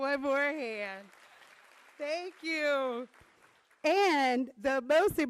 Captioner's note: applause